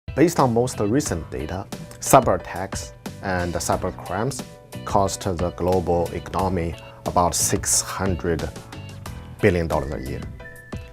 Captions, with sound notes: (upbeat music) [MAN, thick Chinese accent]: Based on most recent data, cyber attacks and the cyber crimes caused to the global economy about 600 billion dollars a year.